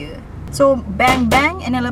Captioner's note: pop sound